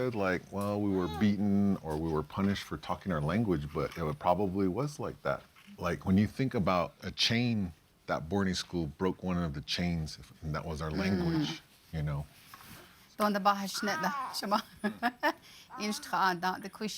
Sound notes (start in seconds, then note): 13.4 speaking Navajo; 15.7 laughs